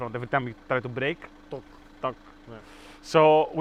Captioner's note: Noises of used MX-5 sadness